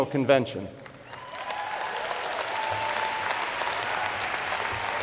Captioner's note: crowd applauding